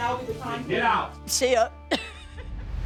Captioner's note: laughs